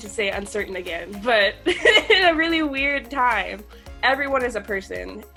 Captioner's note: laughs